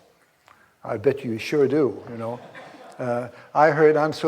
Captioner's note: audience laughs